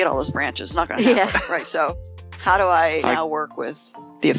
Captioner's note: laughing